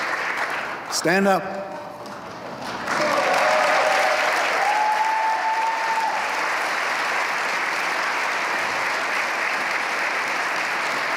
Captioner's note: applause